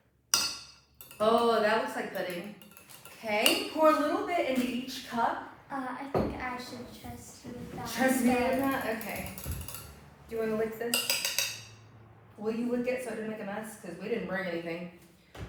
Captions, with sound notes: [clink of spoon hitting the glass] Oooh, that looks like pudding. Okay, pour a little bit in each cup. -Uh, I think I should trust you with that. -Trust me with that? Okay. Do you want to lick this? [taps spoon] Will you lick it so it doesn't make a mess because we didn’t bring anything.